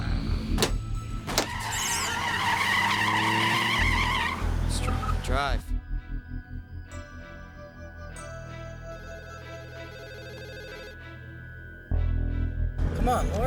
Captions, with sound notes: [ Tires Screeching ] DRIVE. [ Phone Ringing ] COME ON, LAURIE. JUST--